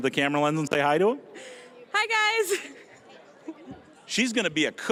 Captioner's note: giggling